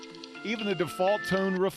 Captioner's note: sound of iPhone ringtone